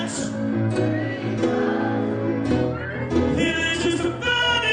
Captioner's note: crowd